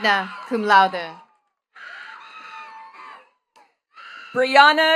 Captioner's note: attendees cheering and clapping